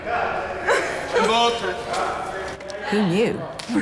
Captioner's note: laughs